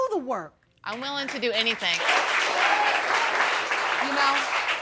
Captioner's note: audience applauds